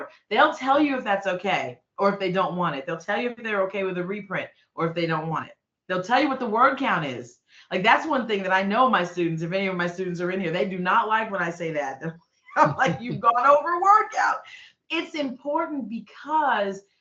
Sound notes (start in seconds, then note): 12.6 laughing